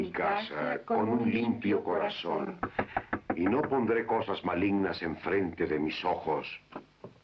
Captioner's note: knocking